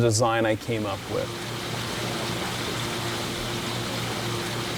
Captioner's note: water flowing